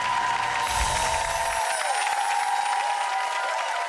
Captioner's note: audience applauding and cheering; chiming